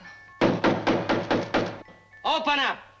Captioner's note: loud knocking on door